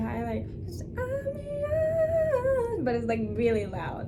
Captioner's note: hums